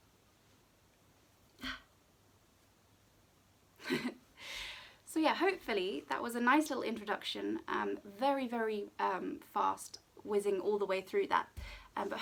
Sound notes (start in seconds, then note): 1.6 grunting; 3.8 chuckling